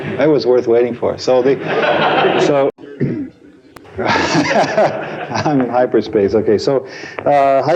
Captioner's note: laughter